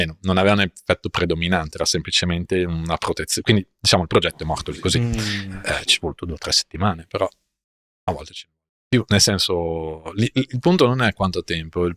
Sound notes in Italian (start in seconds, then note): 4.4 schiarire la voce